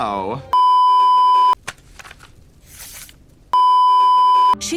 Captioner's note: beeeeeep; writing noises; beeeeeep